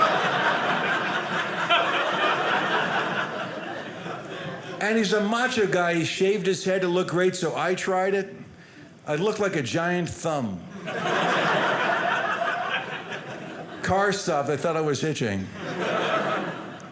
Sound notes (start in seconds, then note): 0.0 audience laughing; 10.7 audience laughing